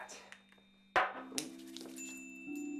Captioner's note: clattering; shuffling